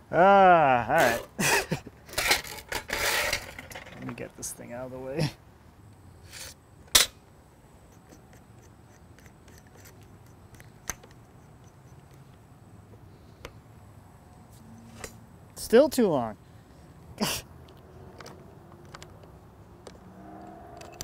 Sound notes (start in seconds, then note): 6.9 metal clashing; 8.0 bit locking; 14.6 metal surfaces rubbing; 16.7 laughs; 18.4 bit locking